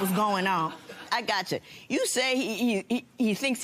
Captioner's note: laughter